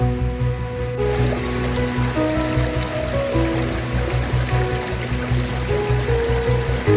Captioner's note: sound of rushing water